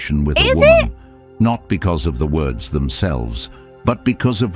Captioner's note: AI Voice